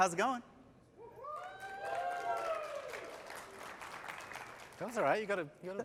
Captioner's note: cheers